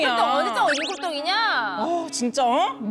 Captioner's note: sound effect of “not our channel”